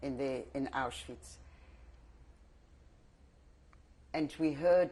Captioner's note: pauses for 3 seconds